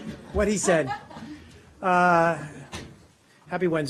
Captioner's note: woman laughing